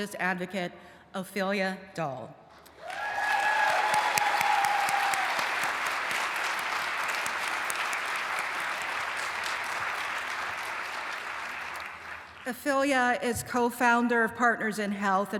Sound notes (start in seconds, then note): 2.5 applause and cheering